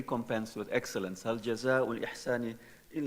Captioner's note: speaking in foreign language